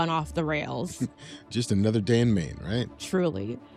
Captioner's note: chuckles